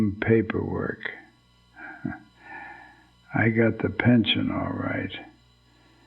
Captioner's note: chuckles